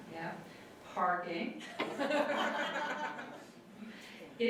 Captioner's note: audience laughter